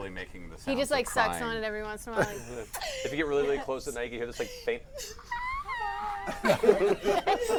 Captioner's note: screams